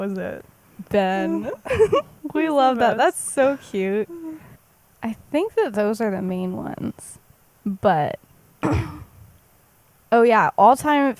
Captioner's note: laughs